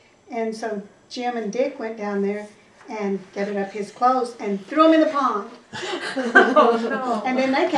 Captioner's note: laughter